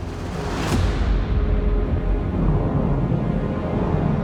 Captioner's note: explosion